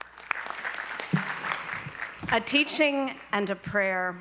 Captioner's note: applause